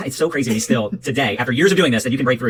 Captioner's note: laughs